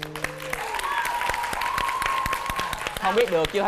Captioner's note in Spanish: aplausos